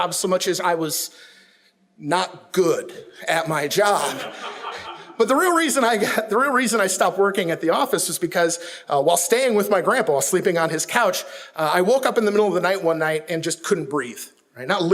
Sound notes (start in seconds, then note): 4.0 audience laughs